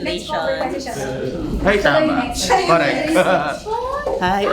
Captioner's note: laughs